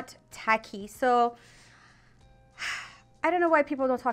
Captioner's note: inhaling and sighing